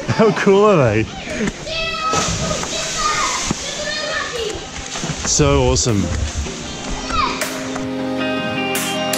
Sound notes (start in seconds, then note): 1.1 children yelling; 7.1 upbeat music